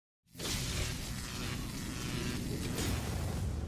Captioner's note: electricity noise